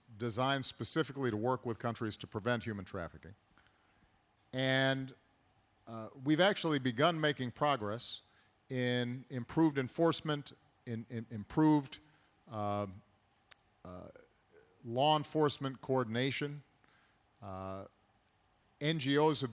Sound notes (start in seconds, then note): none